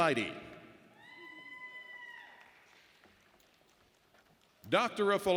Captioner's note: audience member shouting